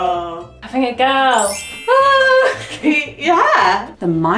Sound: chimes tinkling

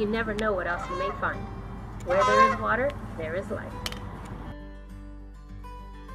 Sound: sounds of multiple Canada Geese honking

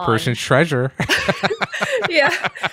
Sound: laughing; laughs

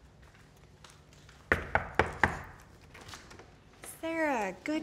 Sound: door knocking

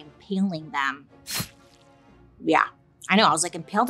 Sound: blade thuds

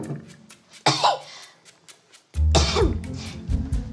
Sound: coughing

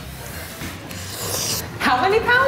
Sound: slurping

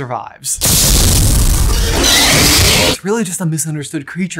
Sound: basilisk roaring

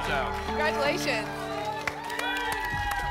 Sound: applause and cheering

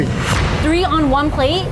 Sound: dramatic snap

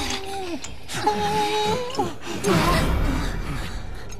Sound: tulin whimpering

